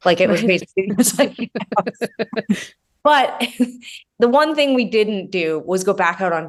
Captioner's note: laughing